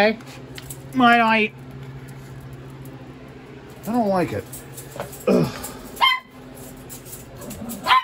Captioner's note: Ella barks; Ella continues barking